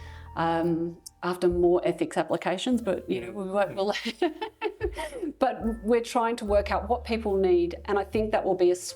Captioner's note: laugh